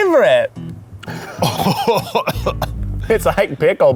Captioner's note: upbeat music; cough/gagging